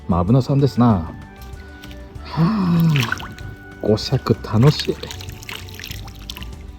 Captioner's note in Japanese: 喜びのため息